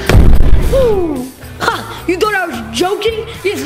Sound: exclaiming

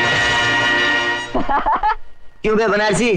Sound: laughing

